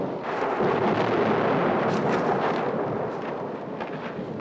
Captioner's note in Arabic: هدير الرعد